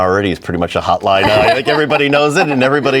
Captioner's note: both laughing